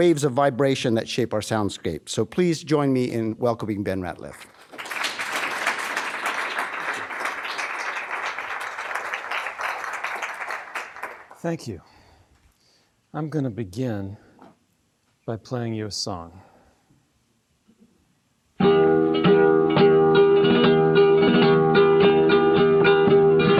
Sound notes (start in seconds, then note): 4.4 audience applauding; 20.1 flamenco song playing